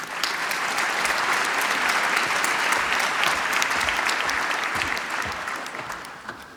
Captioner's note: applause